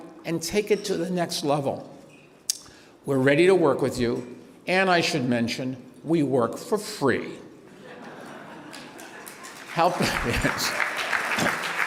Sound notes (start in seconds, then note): 7.6 laughter; 8.6 applause